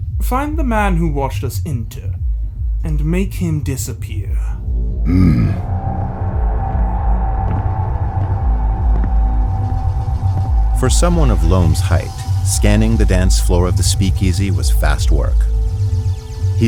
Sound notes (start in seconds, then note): 10.7 heavy foosteps and intensifyingly ominous music